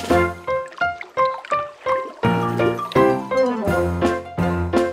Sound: water burbles; bright music

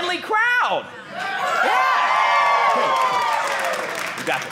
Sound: audience cheering

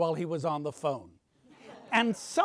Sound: audience laughs

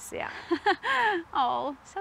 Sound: laughs

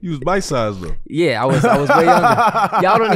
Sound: laughing

